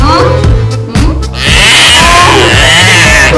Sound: sorrowful crying ToT

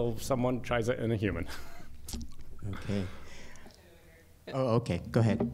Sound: laughter

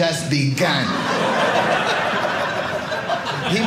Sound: audience laughing

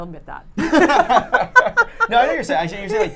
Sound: laughing

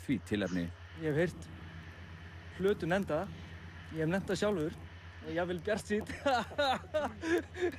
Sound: laugs

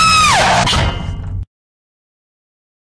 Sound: clang!

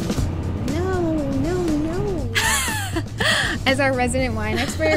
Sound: laughs

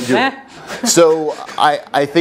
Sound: laugh

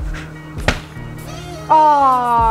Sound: ball hits board

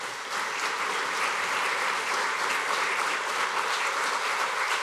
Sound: applause

